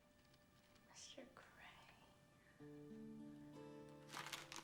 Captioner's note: whispering